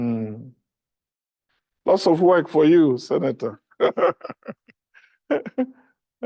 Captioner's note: laughs